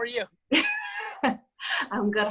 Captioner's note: laughing